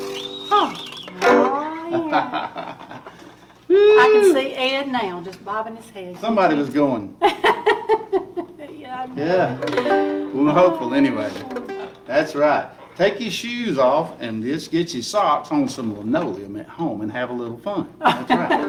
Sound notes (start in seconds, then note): 7.2 laughing; 8.9 guitar sound